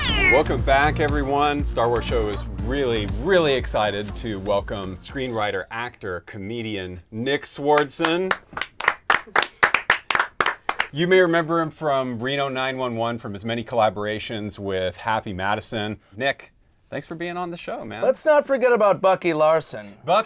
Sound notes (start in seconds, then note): 7.7 clapping